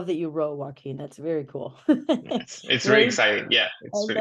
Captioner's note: laughs